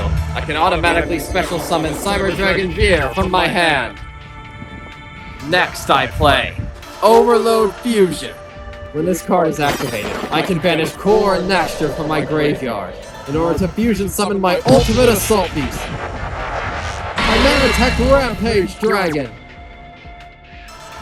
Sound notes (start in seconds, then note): 18.8 rampage growls